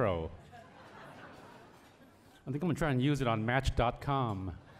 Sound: laughter

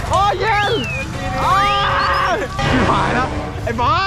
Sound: screaming from coldness

